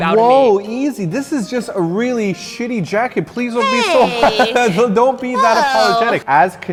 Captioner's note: laughs